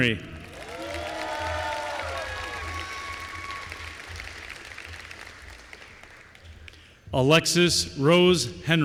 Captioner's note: applause